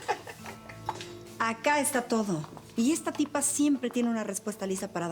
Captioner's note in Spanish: risas